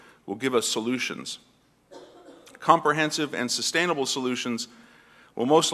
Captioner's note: cough